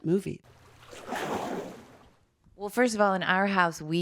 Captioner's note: water splashing